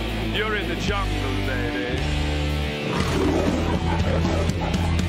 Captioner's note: roars